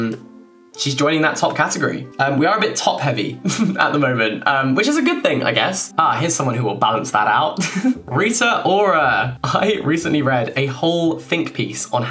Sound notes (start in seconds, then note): 3.4 chuckling; 7.6 giggling